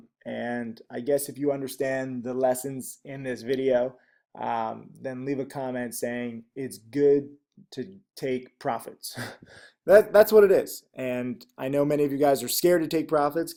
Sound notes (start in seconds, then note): 9.2 chuckles